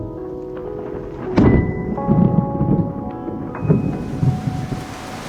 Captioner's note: thunder clapping